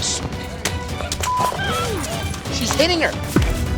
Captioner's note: beep